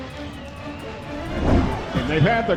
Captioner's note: woosh In